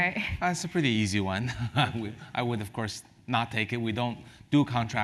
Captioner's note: laugh; laugh